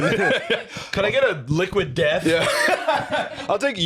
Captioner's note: laughs